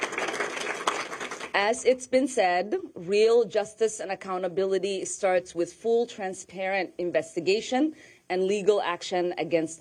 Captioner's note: applause